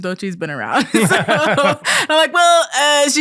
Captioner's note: both laughing